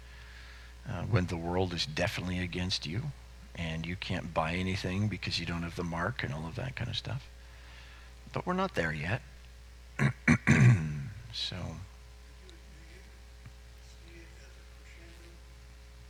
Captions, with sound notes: when the world is definitely against you and you can't buy anything because you don't have the mark and all of that kind of stuff, but we're not there yet. So. (man speaking off mic)